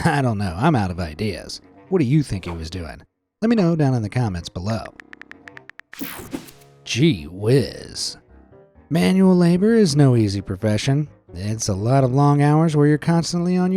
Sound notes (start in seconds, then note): 5.3 keys tapping; 6.0 screen whooshing